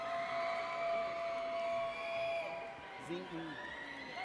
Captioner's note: audience cheers